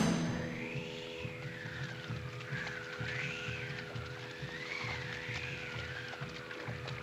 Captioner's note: dramatic music; wind whistling; waves lapping